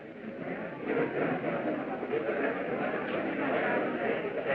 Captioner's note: chattering